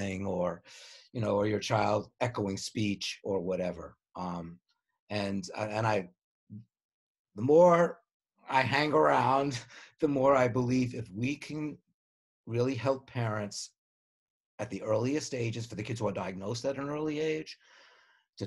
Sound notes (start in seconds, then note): none